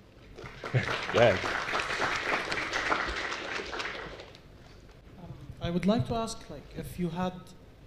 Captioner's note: applause